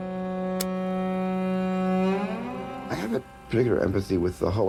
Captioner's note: film reel spinning